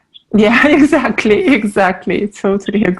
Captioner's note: laughing